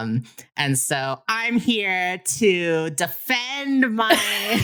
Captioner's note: laughs